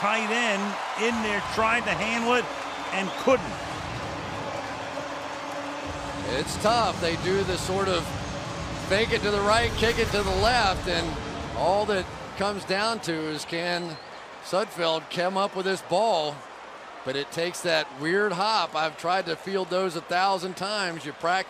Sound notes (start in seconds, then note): 4.1 pa announcement